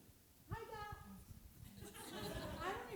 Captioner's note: laughter